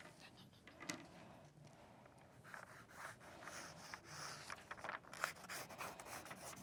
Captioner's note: pencils scraping